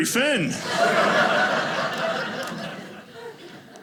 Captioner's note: audience laughing